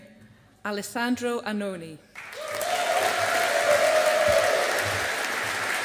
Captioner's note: audience applauding